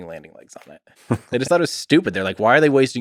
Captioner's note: Lex chuckles